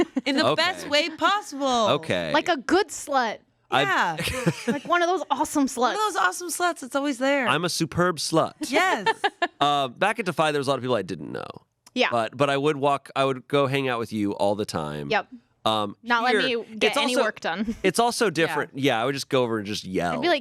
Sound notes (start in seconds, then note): 4.1 laughs